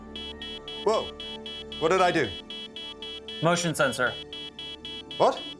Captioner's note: beeping